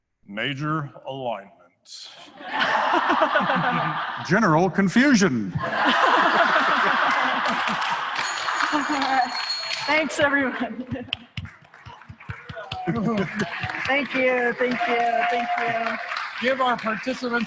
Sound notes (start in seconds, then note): 5.9 ringing the bell; 10.8 applause